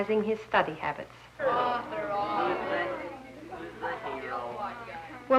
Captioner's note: murmuring